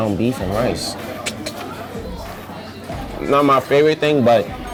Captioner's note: clicks tongue